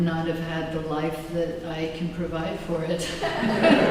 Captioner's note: laughter